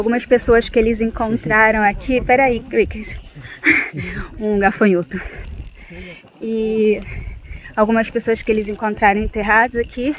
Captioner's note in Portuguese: risadas